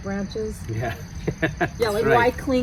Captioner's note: laughs